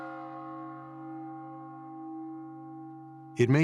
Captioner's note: bell tolls